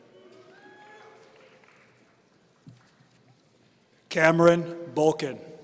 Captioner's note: audience cheering